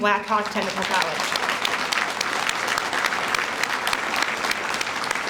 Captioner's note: audience applauds